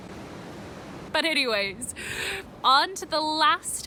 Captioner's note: laughing